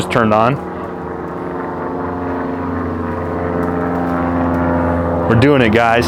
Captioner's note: plane engine whirring